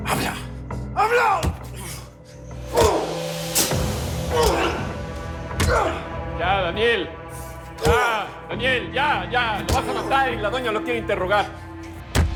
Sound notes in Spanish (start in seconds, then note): 0.8 Gemidos; 1.4 Golpes